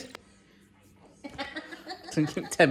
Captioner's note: laughs; laughing